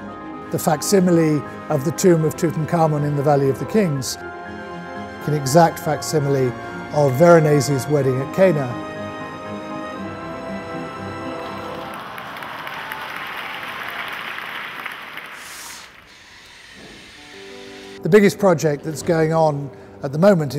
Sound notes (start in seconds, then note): 9.8 dramatic orchestral music; 11.3 crowd applauds